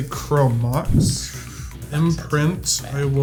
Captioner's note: player exhales